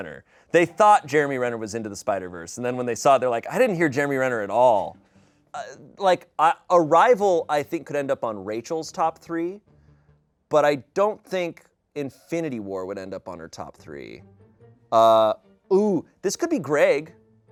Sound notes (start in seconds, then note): none